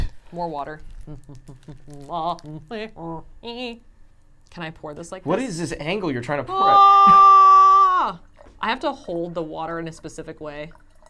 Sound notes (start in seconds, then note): 6.4 screams